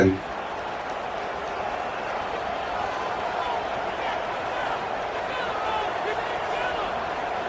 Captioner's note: crowd cheering